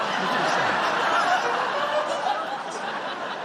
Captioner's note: laughter